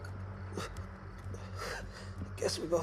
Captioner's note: Louis groaning